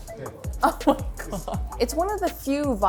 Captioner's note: laughs